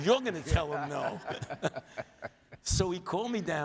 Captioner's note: audience laughs